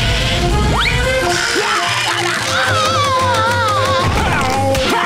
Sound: screaming; yelling

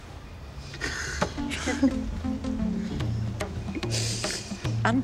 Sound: both laughing

